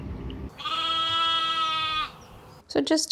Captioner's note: distant boat noises; sheep noises